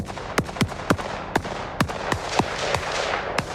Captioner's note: shots firing